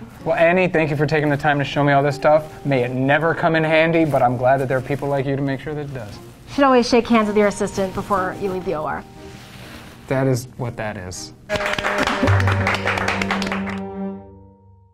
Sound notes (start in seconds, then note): 11.4 people clapping; 13.2 light music